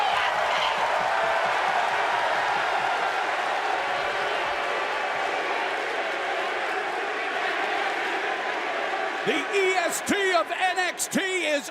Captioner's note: crowd cheering